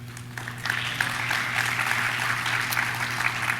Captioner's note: audience claps